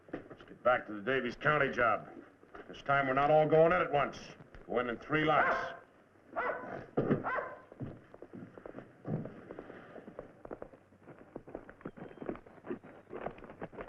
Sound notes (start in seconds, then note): 7.2 dog barking